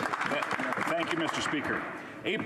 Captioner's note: applause